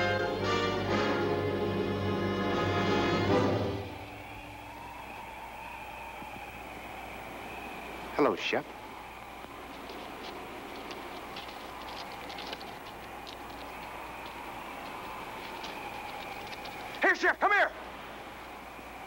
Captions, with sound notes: (wind howling) Hello Shep. Here Shep, come here.